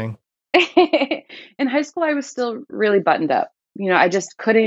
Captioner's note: laughter